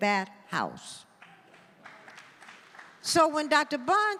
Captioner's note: audience applauding